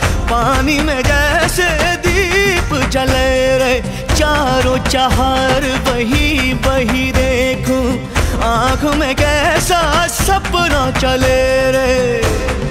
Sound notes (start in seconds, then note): none